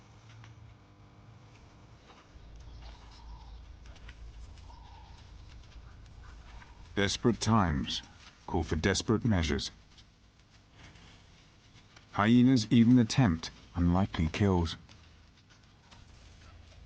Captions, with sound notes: hyenas even attempt unlikely kills. (dramatic music) (birds chirping) The shrinking pools become fierce battlegrounds. (dramatic music)